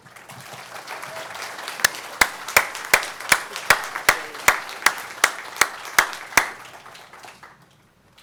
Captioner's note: applause